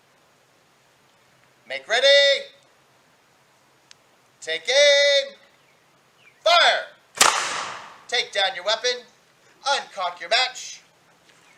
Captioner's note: gun fires